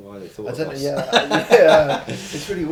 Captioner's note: laughing